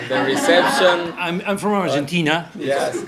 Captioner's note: laughs